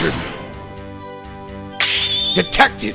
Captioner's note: snap!